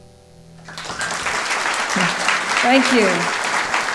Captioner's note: applause